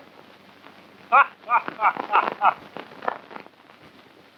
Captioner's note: laughs